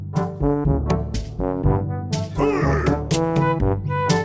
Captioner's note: HEY sound effect